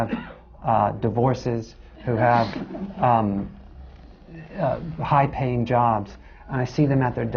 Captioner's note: laughter